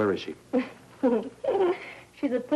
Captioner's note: Francine giggles